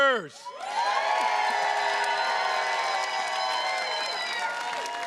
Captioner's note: attendees cheers and claps